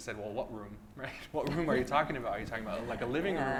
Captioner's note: laughs